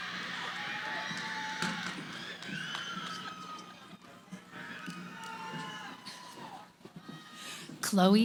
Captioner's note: cheering